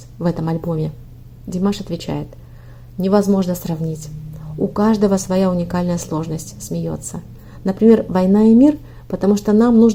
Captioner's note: laughs